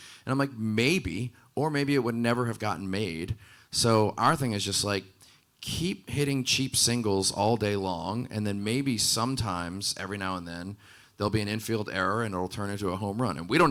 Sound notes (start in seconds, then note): none